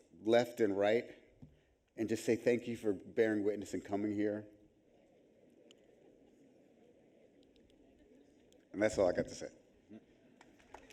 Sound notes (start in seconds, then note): 5.3 audience chattering